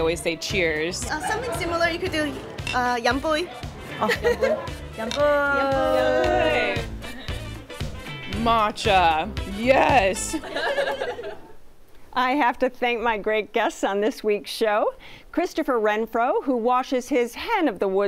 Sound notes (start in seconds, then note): 3.7 all cheersing